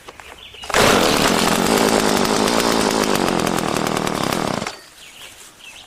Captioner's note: chainsaw revs up